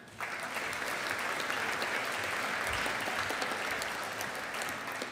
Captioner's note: audience applauding